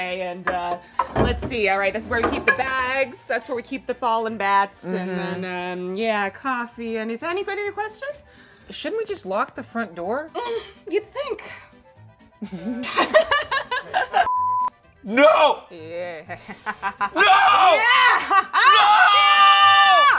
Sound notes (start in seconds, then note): 12.4 both laughing; 16.3 mimics evil laugh